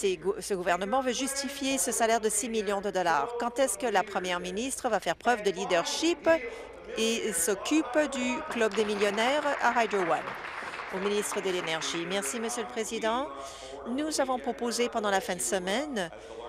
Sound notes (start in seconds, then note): 12.3 applause